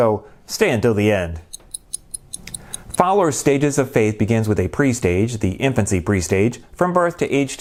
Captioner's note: clock ticking